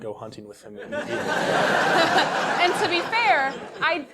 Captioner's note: laugh